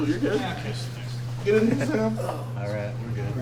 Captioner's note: grunting